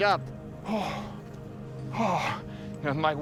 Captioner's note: panting